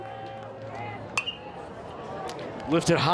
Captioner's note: bat dings